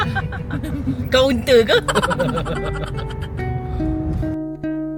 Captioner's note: laugh